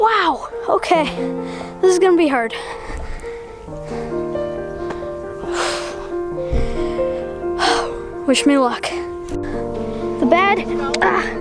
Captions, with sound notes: Wow, okay, this is gonna be hard. (loudly exhales) Wish me luck. The bad,